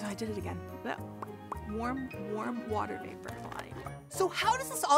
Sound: popping sound

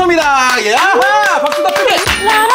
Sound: applause

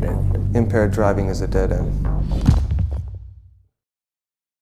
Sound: woosh, thump

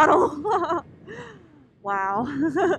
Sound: laughing

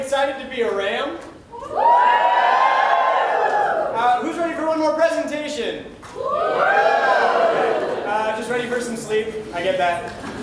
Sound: cheers

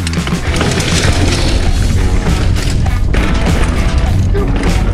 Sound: tires rumbling on the ground

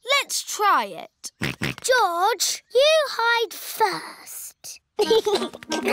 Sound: snorts; chuckles

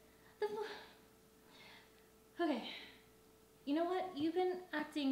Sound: taking Deep Breath

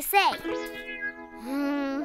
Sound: sighs

